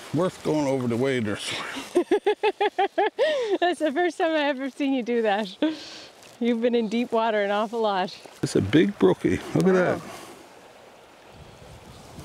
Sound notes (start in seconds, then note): 1.6 laughing